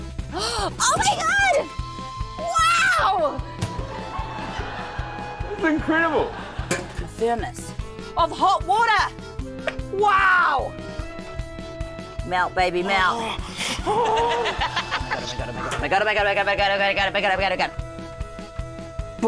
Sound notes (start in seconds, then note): 0.3 gasps; 12.9 groans loudly